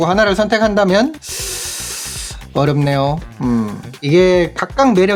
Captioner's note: sigh